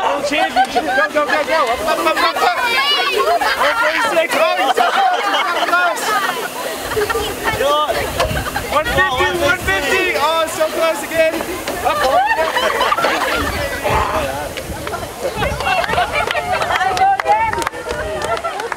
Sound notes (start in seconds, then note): 2.1 crowd cheering; 3.1 crowd clamoring; 12.4 crowd laughing; 13.7 crowd cheering; 13.8 participant grunts; 15.9 crowd clapping